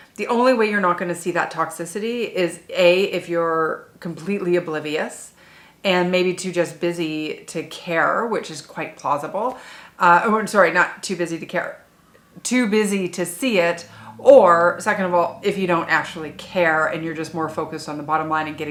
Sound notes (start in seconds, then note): none